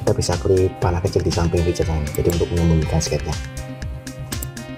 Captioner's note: click